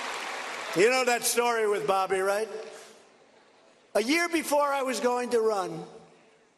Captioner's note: applause